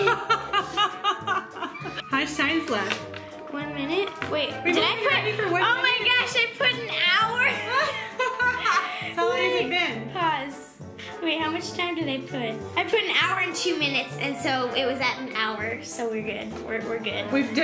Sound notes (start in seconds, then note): 0.0 laughs; 7.5 both laughing